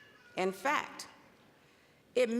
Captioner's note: none